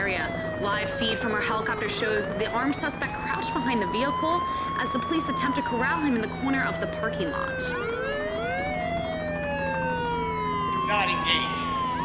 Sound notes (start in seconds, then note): 7.3 sirens and helicopter continue; 10.9 on megaphone